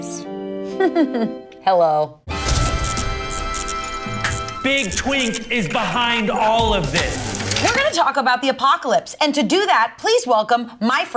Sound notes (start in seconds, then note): 0.0 solemn organ music; 1.5 laughs; 2.3 upbeat music; 2.4 electricity sizzles